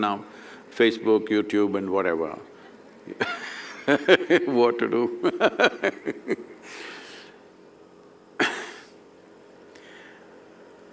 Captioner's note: laughs